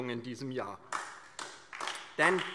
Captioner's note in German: Beifall DIE LINKE